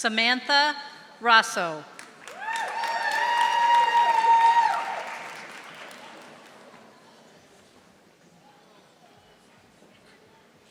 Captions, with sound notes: Samantha Rosso. (audience applauding)